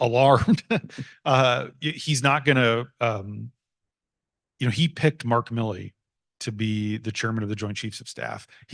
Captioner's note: laughs